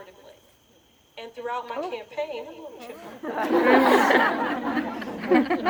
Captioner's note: laughter